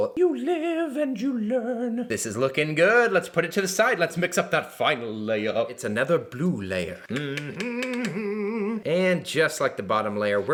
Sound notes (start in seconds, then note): 7.0 humming